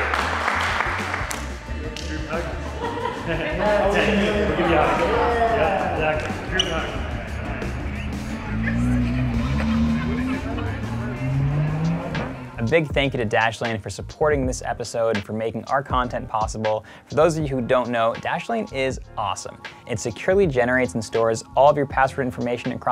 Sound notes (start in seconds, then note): 0.0 everyone clapping; 0.1 everyone cheering; 8.9 engine revving